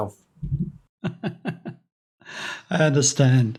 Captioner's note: laughs heartily